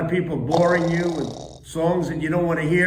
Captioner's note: someone snores